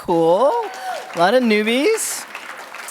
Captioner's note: audience clapping